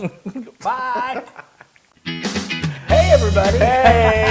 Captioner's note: laugh